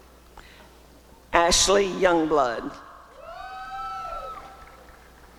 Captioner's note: applause and cheering